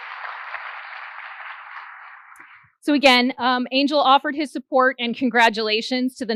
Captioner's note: applause